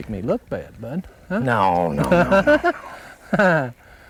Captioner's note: laughter